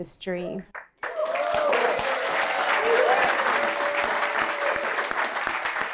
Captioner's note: applause